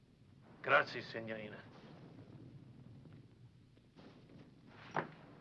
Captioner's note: speaking foreign language